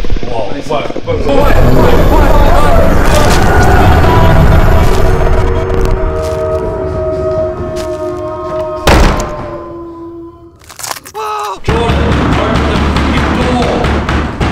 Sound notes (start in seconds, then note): 3.0 monster bites; 8.8 door slammed shut